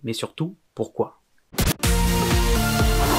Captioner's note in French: Scratch